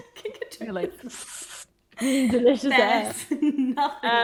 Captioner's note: sips